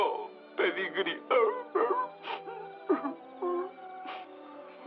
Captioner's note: crying